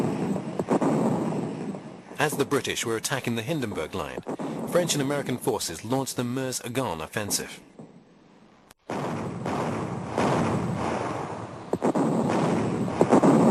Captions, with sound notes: As the British were attacking the Hindenburg Line, French and American forces launched the Meuse-Argonne offensive. [heavy artillery booming]